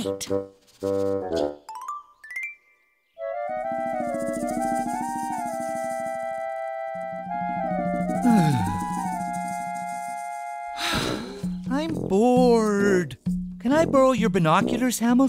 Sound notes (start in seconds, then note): 8.2 moan of boredom; 10.7 sigh